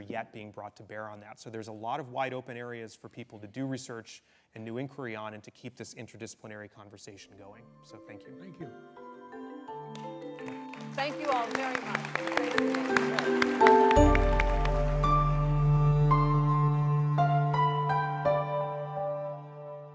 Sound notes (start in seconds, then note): 11.7 applause